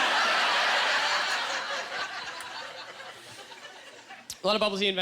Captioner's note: audience laughter